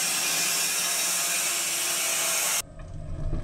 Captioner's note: saw whirring